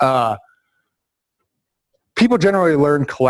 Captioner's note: pause